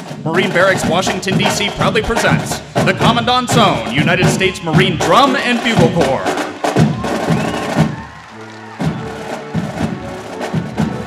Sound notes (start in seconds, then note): 5.9 applause